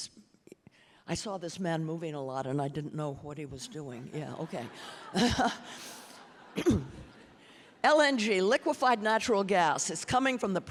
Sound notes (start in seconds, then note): 4.2 audience laughing